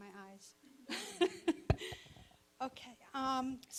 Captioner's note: laughing